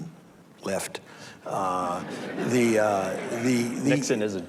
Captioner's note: audience laughs